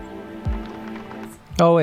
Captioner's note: clapping